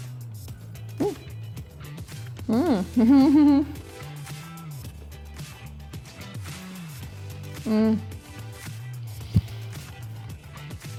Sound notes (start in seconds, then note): 1.3 humming; 7.9 moaning